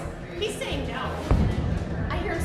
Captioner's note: boom